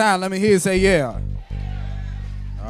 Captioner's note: crowd